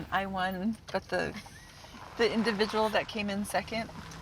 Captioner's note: woman laughs